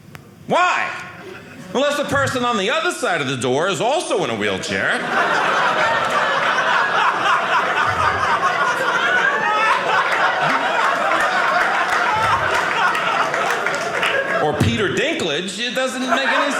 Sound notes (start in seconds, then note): 4.4 audience laughing; 11.1 audience clapping